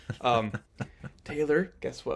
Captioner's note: laughing